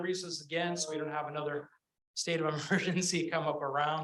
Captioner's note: chuckles